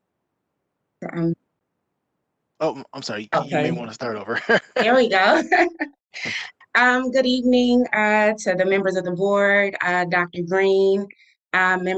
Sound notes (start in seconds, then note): 3.1 laughs